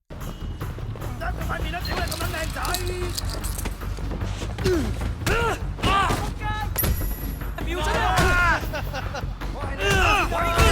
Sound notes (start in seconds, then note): 0.1 dramatic music; 5.2 NPCs grunting